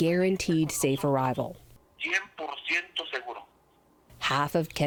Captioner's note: through translator